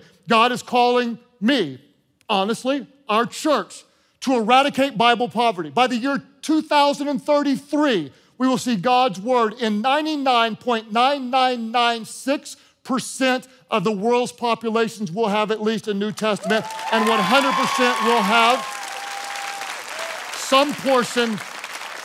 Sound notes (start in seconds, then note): 16.4 congregation cheering